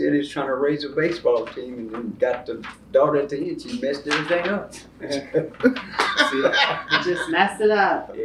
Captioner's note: laughter